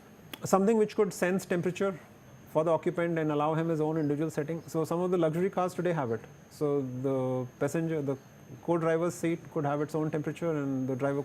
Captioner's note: shocks